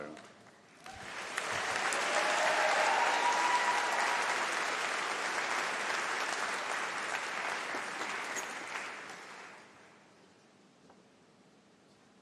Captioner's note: applause